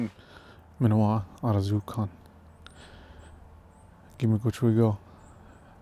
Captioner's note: speaking Anishinaabemowin